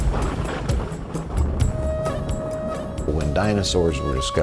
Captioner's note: thunder rumbling